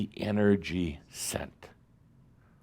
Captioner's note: none